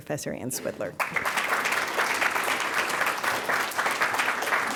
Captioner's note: audience applauds